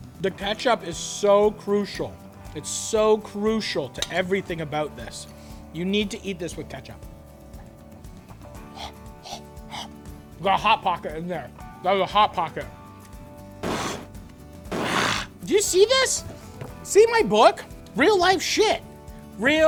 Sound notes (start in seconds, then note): 8.8 blows air; 14.6 growl